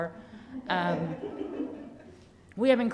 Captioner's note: participants laughing